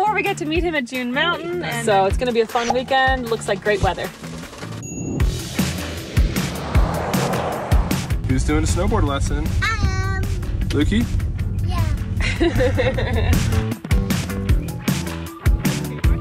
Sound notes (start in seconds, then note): 4.8 bell tings; 5.7 upbeat music; 12.2 laughs; 12.4 upbeat music